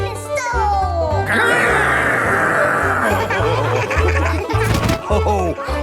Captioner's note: laughing